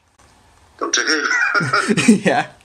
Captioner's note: both laugh